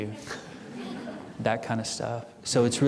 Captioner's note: audience chuckling